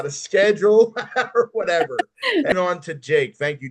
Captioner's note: laughs